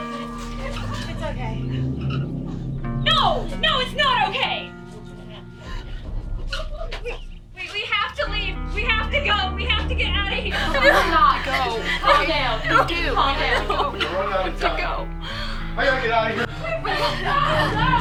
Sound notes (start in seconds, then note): 14.9 panicked shouting